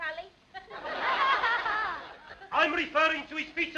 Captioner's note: laughter